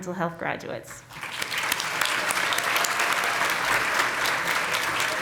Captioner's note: congregation clapping